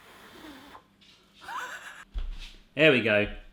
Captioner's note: laughing